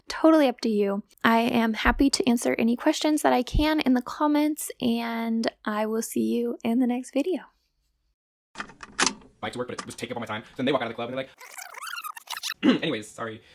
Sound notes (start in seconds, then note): 7.8 vhs sound effect; 11.2 voice garbled and sped up